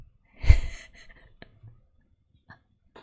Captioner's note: laughs